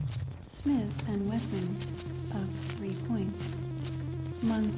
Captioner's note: voiceover